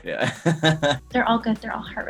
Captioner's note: laughs